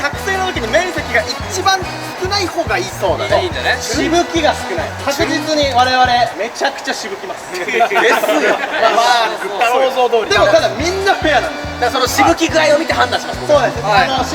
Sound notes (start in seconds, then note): 10.3 laughs